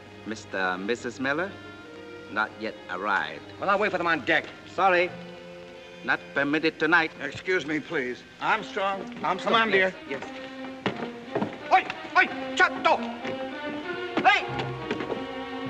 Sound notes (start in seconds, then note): 11.6 shouting in Japanese